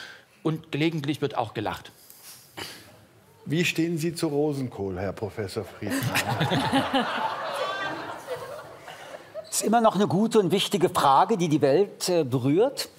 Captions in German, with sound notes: Gelegentlich wird auch gelacht. Wie stehen Sie zu Rosenkohl, Herr Professor Friedman? *Lachen* Es ist immer noch eine gute und wichtige Frage, die die Welt berührt.